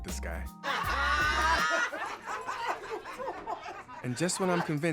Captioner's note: laughter